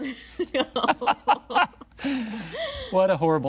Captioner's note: Nox laughing; laughing